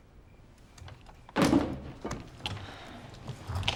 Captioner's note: remote clatters